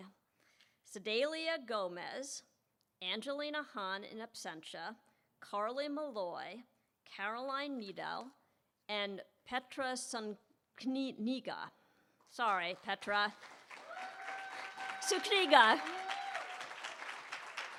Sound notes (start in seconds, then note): 12.4 applause